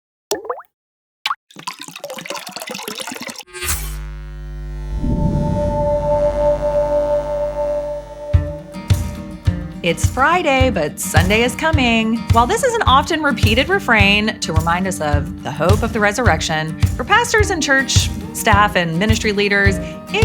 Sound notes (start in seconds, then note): 1.5 water sploshes; 3.5 electricity sizzles; 5.0 air whooshes